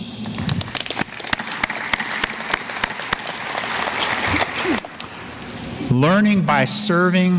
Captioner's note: applause